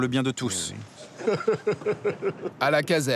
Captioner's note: laughs